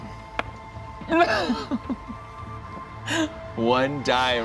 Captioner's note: laughs